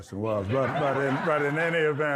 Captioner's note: audience laughs